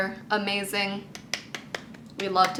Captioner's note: clapping